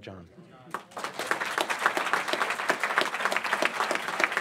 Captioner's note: applause